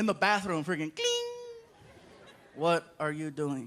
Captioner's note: mimics ding